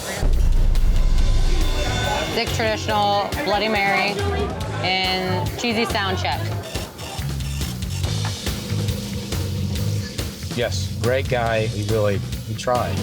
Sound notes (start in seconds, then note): 6.7 register clicking; 7.4 tense music